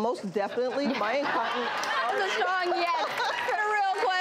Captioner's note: audience laughing and cheering